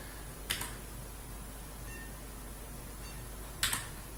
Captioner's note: beeping